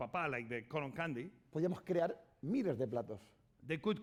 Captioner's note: speaking spanish